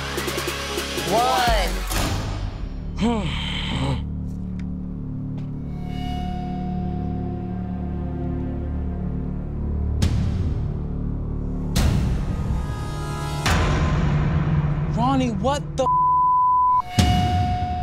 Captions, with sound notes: One. (groaning) (soft dramatic music) - Ronnie what the (beeping)